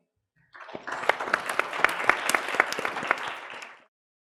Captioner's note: attendees applauding